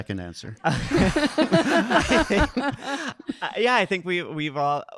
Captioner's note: audience laughing